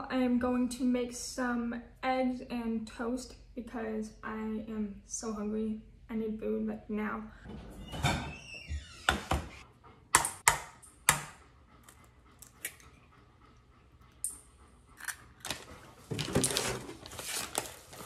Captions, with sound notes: I'm going to make some eggs and toast because I am so hungry. I need food, like now. (egg cracking)